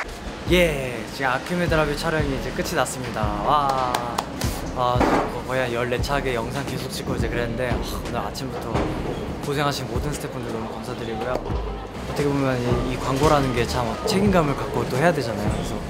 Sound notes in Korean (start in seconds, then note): 3.6 박수